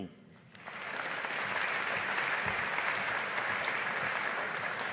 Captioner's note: audience applauding